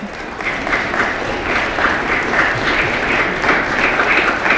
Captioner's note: applause